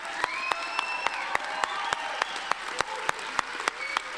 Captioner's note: cheering and whistling